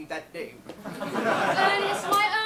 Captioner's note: audience laughs